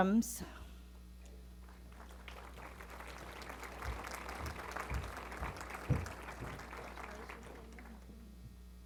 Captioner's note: applause